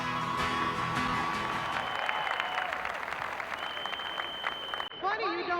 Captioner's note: song ends; crowd cheering